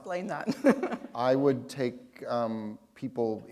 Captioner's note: chuckle